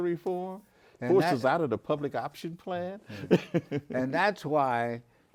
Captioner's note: laughs